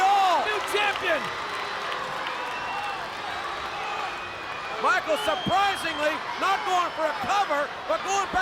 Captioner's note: applause